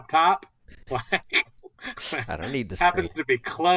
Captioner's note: laughter